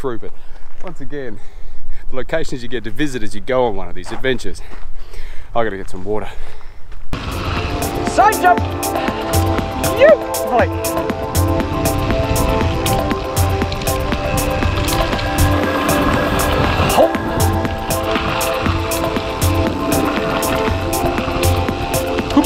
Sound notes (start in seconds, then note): 7.3 workout music; 10.0 whoop